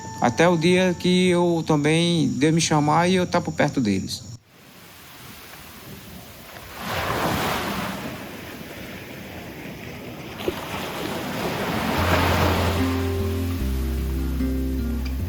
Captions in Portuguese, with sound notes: Até o dia em que Deus me chamar e estar por perto deles. [Ondas do mar]